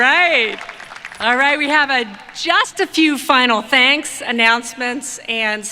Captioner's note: applause